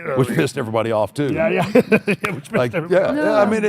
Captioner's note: laughs